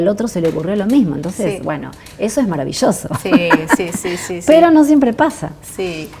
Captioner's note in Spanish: risas